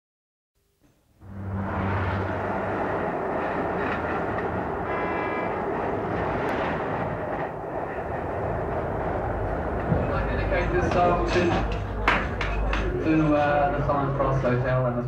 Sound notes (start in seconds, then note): 1.5 horns honking; 1.5 traffic humming